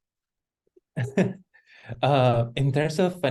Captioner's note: chuckles